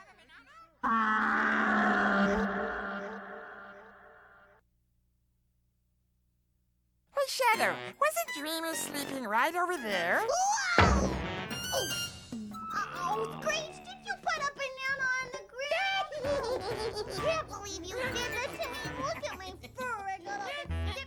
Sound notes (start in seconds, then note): 15.9 Screech giggles